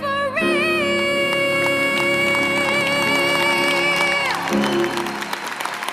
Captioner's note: applause